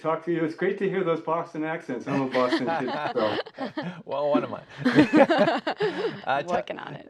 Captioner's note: laughter